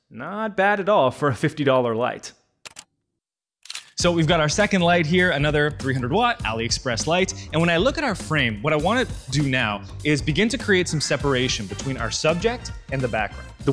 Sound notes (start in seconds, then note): 3.6 camera shutter clicking